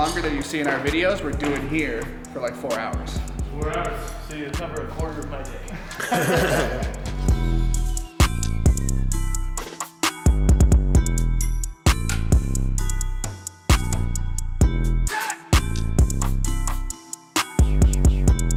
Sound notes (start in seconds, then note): 5.5 everyone laughs; 7.5 hip-hop music